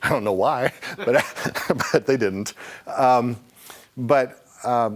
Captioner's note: laughing